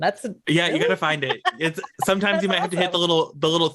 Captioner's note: laughs